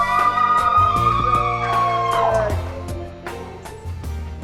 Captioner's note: family cheering